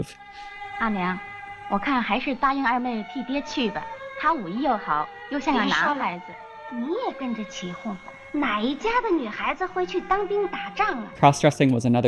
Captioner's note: speaking in Mandarin